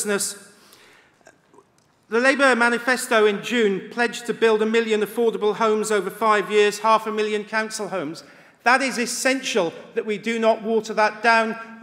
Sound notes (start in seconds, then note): none